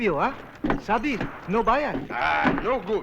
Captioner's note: non-english